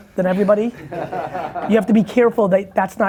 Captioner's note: laughing